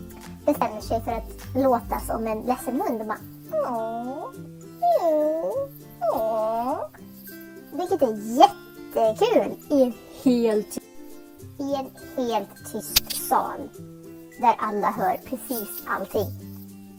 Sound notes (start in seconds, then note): 3.2 making sad dog sounds